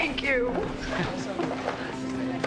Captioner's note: Joe chuckles